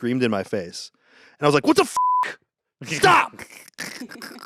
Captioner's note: beep